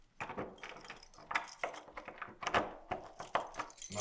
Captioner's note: key clanging